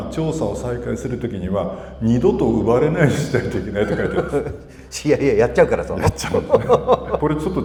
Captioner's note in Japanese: 笑い